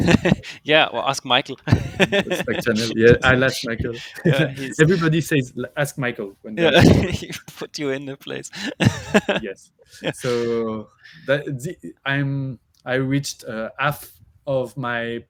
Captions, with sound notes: - Yeah, well, ask Michael. (laughs) - Yeah, I'll ask Micheal. Everybody says, "Ask Michael" when there's- - Yeah, he'll put you in the place. (laughs) - Yes. So I reached half of my path.